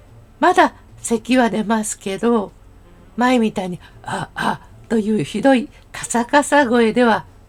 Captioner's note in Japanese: せき